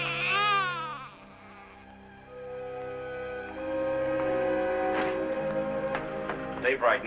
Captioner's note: crying; screaming